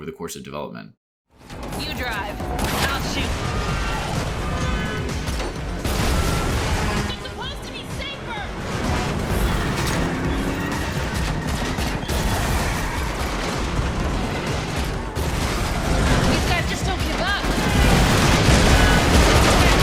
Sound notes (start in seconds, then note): 4.5 gunshots; 19.6 gunshots